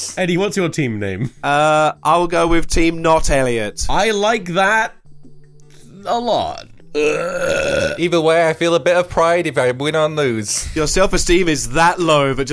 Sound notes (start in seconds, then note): 6.9 burps